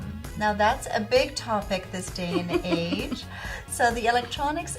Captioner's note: laughing